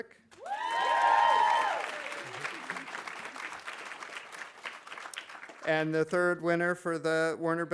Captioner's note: audience applauding; audience cheering